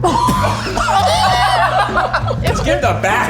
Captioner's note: all laugh